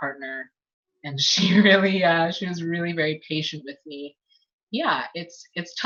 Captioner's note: laughs